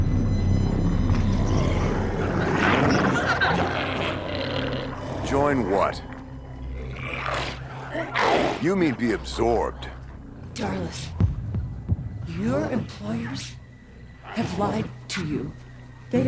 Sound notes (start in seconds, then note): 0.0 glowzies growling; 0.3 intense music; 7.3 glowzies growling